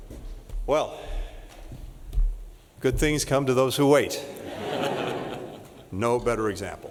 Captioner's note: laughter